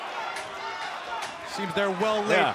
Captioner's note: fans chanting